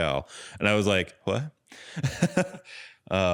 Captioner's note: laughs